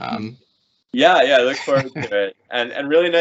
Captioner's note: laughing